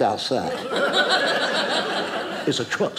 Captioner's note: audience laughing